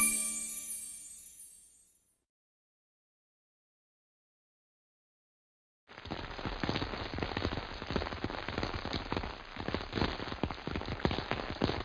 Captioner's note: rain